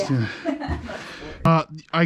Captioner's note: laughs